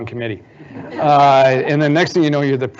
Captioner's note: audience laughing